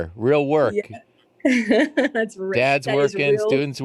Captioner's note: laughs